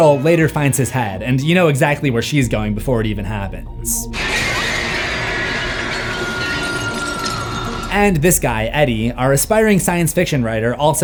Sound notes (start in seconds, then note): 4.2 glass shatters